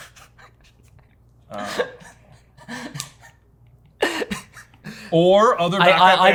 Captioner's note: laughing